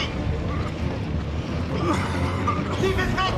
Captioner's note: batuk